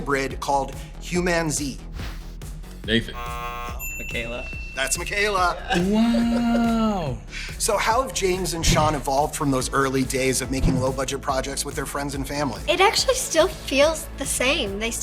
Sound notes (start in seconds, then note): 3.0 buzzer